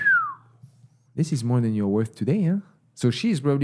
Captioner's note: whistles